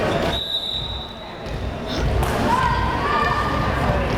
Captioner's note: whistle blares